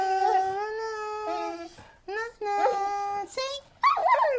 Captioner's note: hums